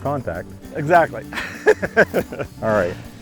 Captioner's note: laughs